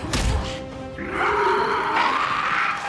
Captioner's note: roaring